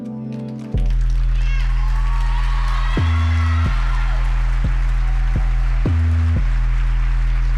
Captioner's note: upbeat music; audience cheering